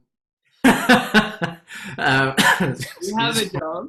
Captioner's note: laughs